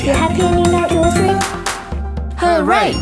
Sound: drum thumping; hands clapping

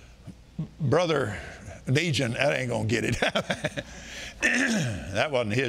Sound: laughing

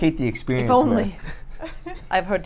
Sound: chuckles; laughs

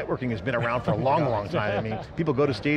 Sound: chuckling

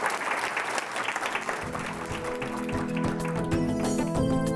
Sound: audience applauding; upbeat music

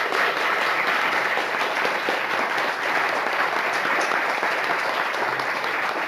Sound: applause

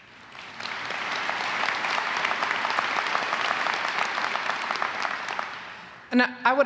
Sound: applause

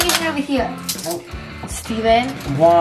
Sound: handcuffs clank

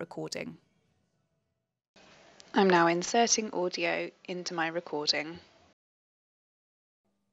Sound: audio playback: I'm now inserting audio into my recording

